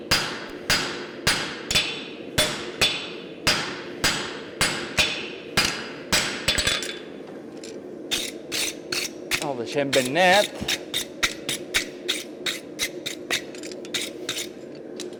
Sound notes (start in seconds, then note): 0.0 metallic hammer blows; 8.0 metal scraping; 10.9 metal scraping against the brush